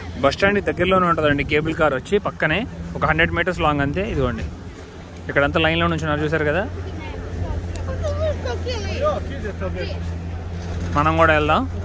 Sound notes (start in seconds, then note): 7.7 speaking in foreign language